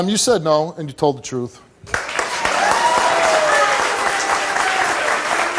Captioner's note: audience applauds